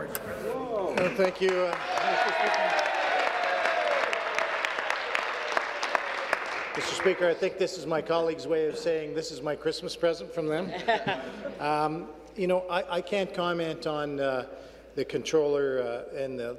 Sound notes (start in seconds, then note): 5.6 applause; 6.4 cheers